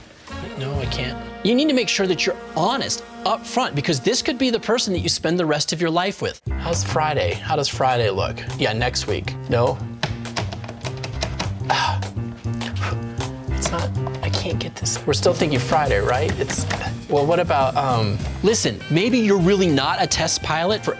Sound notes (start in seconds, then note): 11.6 David scoffs